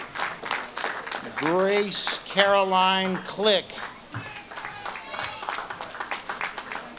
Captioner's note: audience claps and cheers